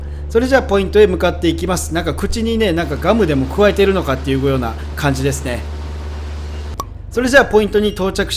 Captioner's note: haha